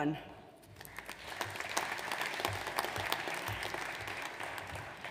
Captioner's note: audience applauds